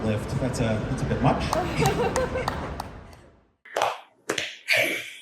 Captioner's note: sparse laughter and one person clapping